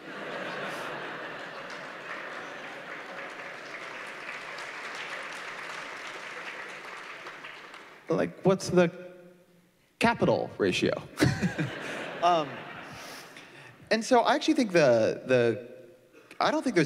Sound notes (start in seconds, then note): 7.4 laughter; 8.2 applause; 11.2 laughter